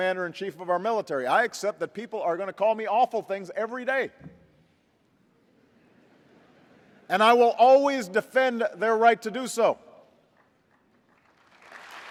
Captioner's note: laughs; applause